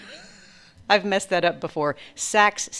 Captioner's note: laughs